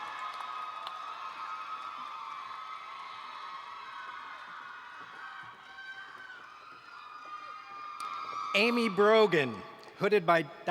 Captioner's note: cheers and Applause